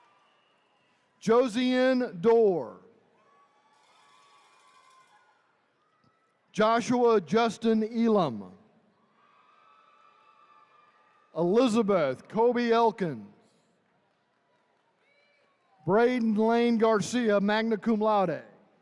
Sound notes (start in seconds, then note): 3.1 attendees cheering; 9.0 attendees cheering